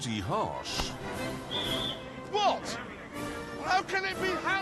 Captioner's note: whistle